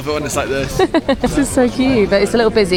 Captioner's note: laughs